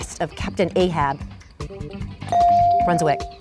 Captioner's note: bell dings